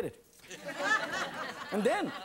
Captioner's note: laughing